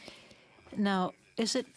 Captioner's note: speaking French